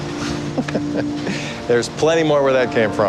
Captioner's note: chuckles